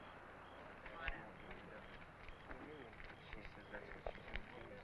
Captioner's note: crowd chattering